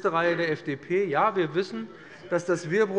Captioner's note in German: Heiterkeit